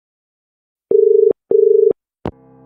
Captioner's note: dial tone